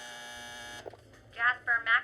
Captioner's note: intercom buzzes